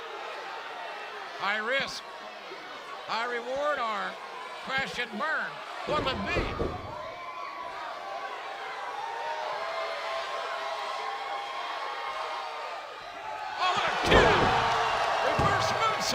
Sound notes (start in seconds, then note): 2.2 crowd cheering